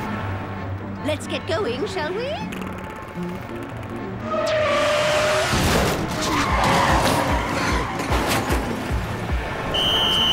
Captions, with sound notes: LET'S GET GOING, SHALL WE? (tires screeching) (blowing whistle)